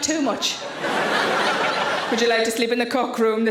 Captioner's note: audience laughing